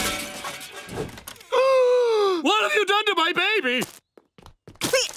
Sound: gasping

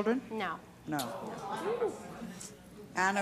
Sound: audience gasps

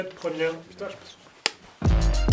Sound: clap

